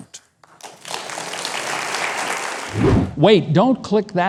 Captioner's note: audience applauds